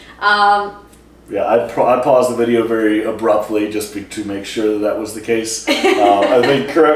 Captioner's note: laughter